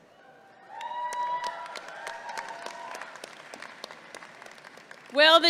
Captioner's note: audience clapping and cheering